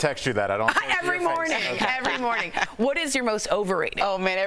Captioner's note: laughter